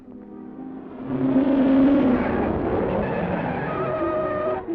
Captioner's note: car racing